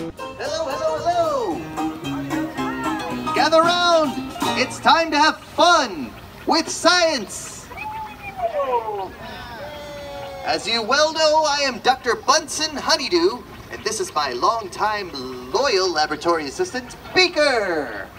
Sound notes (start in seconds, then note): 7.7 audience cheers